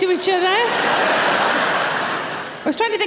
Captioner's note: audience laughing